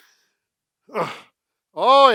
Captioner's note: laughs; grunts